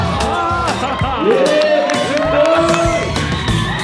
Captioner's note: crowd cheers